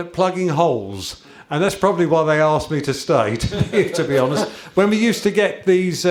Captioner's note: chuckles